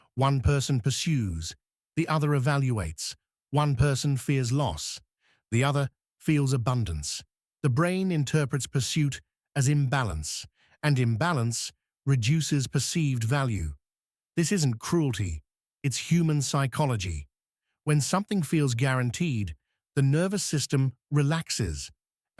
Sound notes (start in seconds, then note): 7.1 breath